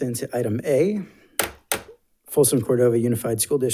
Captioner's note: gavel bangs